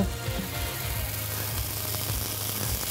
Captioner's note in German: Zischen